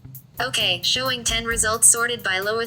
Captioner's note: voiceover